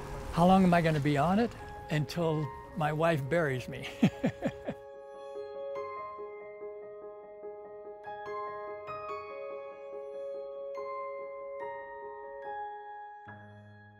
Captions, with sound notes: How long am I gonna be on it? Until my wife buries me. (laughing) (peaceful soft music)